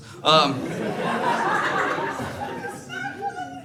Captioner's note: laughter